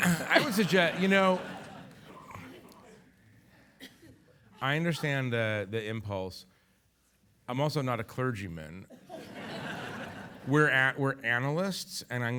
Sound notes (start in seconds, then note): 9.1 audience laughing